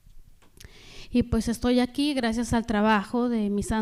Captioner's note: speaking spanish